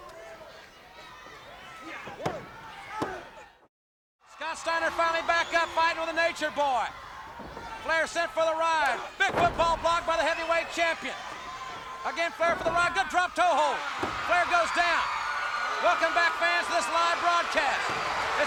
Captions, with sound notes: (audience cheering) (hand thudding) Scott Steiner finally back up fighting with the Nature Boy. Flair sent for the ride, big football block by the heavyweight champion. Again, Flair for the ride, good drop tow hold, Flair goes down. Welcome back fans to this live broadcast.